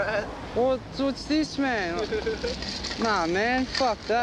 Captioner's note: laughs